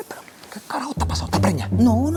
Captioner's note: whisper